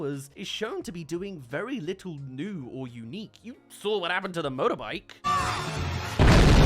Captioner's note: explodes